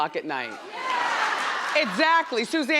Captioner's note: crowd laughs